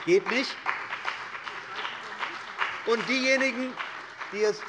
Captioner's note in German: Beifall bei der CDU und dem BÜNDNIS 90/DIE GRÜNEN